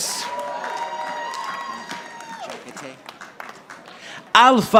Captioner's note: audience applauding